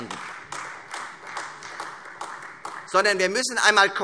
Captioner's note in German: Beifall Freie Demokraten und vereinzelt AfD